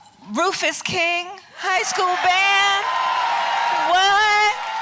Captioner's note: applause